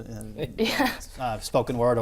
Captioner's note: laughter